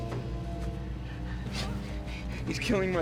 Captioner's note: panting